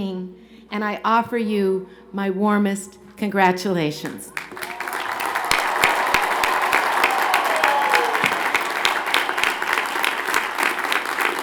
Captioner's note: cheers and Applause